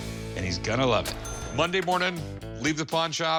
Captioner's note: cash register dings